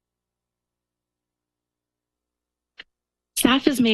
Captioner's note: pause